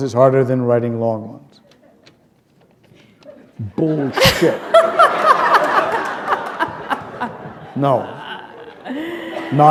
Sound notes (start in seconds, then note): 4.0 laughter